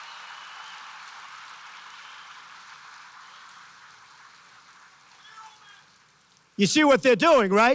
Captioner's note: applause